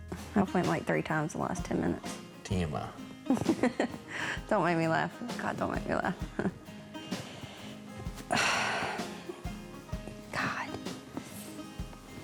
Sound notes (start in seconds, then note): 3.3 laughs; 7.0 exhales